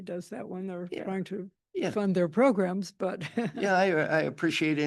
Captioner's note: chuckles